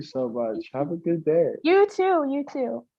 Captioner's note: voiceover